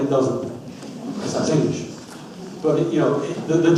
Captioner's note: audience laughs